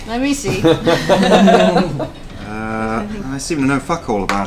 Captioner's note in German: Gelächter; seufzt